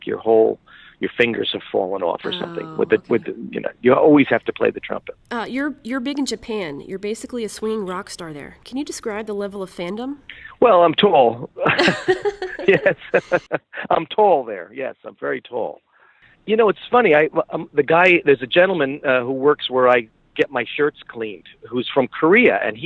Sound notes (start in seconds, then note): 11.1 laughs